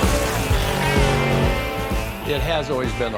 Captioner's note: engine racing